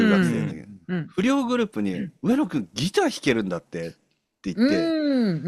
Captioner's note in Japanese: 咳払い